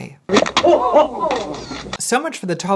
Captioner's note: crowd exclaiming